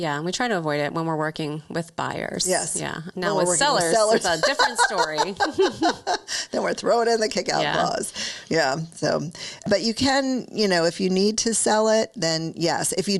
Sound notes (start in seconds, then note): 3.9 giggles; 4.1 laughs